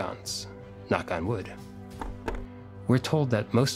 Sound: knocking sound

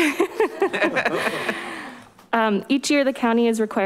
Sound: everyone laughs

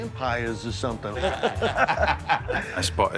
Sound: chuckling

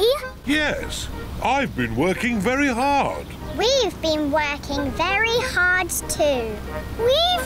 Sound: none

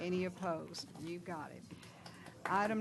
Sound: applause

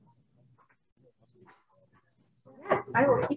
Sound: group chatting

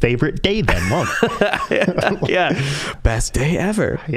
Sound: both laughing

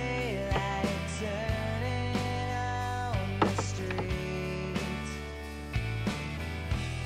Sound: clock clunks

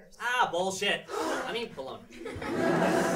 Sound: kids gasp

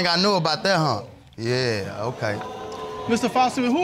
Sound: audience exclaims

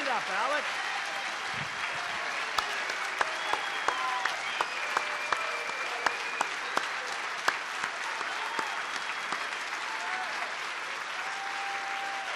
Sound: applause

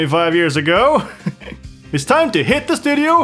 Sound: laugh

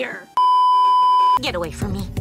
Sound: beeeeeep

